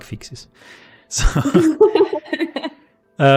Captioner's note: laughter